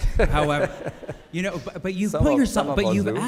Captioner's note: laughing